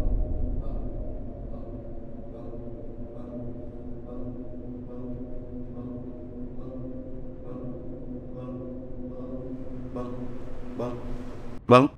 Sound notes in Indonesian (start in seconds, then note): 0.0 echoing noises